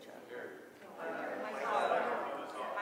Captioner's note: people talking